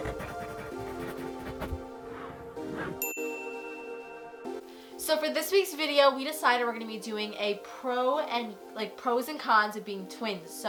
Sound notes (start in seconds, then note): 0.1 soft music; 3.0 bell dings